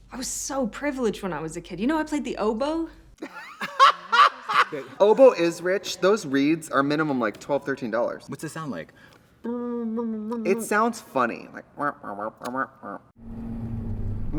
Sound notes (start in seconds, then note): 3.2 both laugh; 9.5 Katya hums; 12.3 Trixie quacks